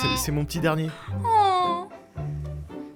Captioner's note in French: gémissement attendri